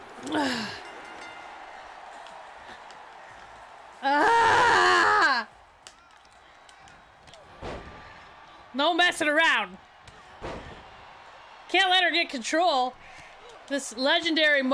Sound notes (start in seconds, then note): 0.0 applause; 5.3 applause; 10.3 applause